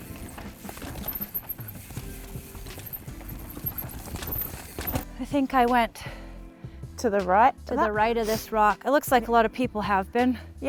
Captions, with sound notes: (bike zooming) I think I went to the right of this rock. It looks like a lot of people have been.